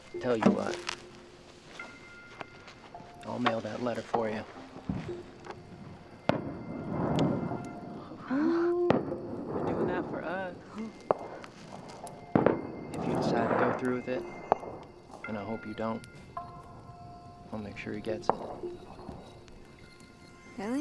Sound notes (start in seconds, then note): 4.8 fireworks; 8.0 gasps